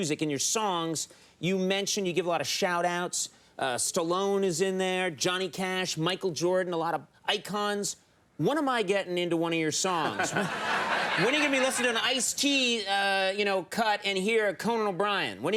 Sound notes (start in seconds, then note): 10.0 audience laughing